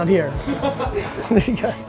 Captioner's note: laughs